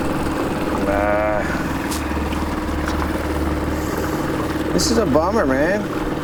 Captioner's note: water splashing